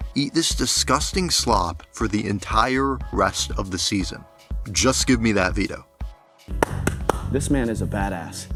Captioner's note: clapping